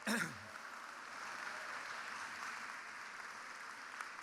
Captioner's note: crowd applauding